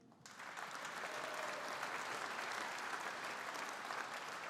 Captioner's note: audience applauding